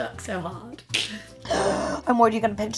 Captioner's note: gasps